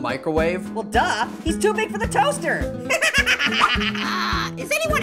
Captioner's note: laughs